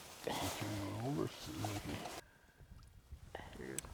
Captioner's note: laughing